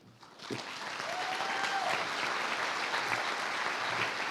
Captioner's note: applause